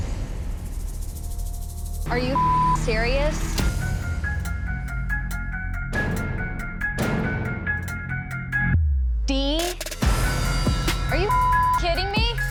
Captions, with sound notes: - Are you (beep) serious? (tense music) D? Are you (beep) serious?